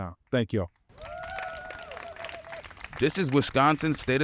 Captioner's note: crowd applauding and cheering